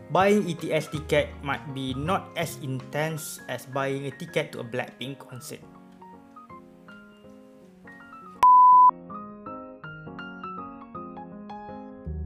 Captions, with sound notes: Buying ETS ticket might be not as intense as buying a ticket to a Blackpink concert (beep)